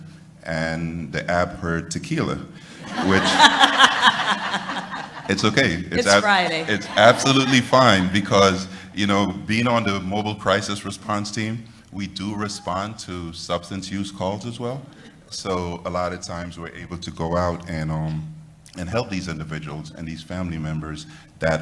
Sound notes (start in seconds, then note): 6.9 laughter